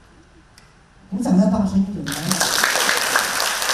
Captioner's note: clapping louder!